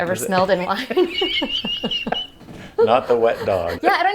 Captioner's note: laughing